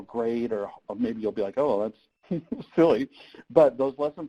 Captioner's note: laughs